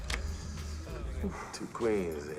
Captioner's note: sighs